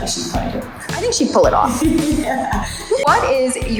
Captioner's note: laughs